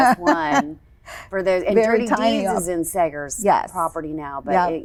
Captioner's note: laughs